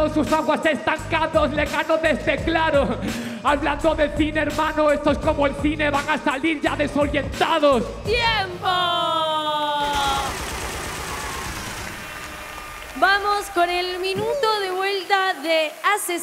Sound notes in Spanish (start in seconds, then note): 9.9 Aplausos